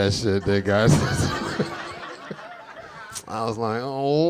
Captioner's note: audience laughing; chuckling